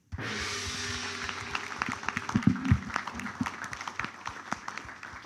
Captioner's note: applause